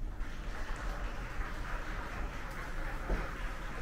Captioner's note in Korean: 박수